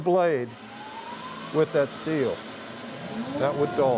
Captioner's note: bandsaw roaring